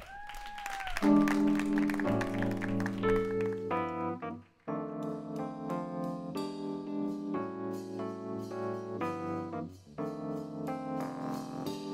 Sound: applause

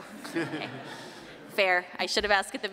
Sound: laughter

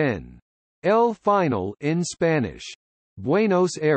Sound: in Spanish

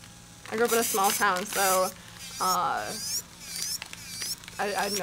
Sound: machine whirring

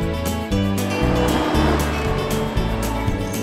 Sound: wind rustling; atv rumbling

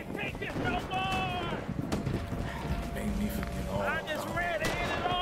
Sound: gunshots ringing

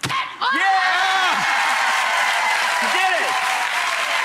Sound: audience cheering

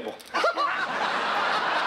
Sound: both laughing

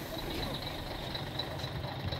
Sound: bus engines

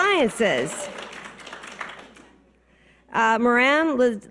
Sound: scattered applause

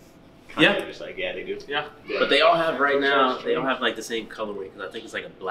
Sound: laughs

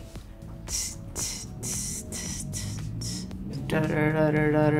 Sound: Jennifer humming

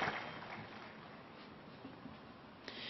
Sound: applause

